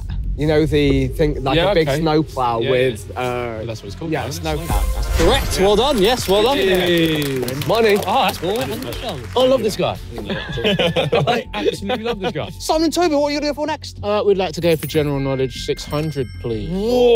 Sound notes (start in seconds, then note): 7.2 everyone clapping and cheering; 10.1 everyone laughing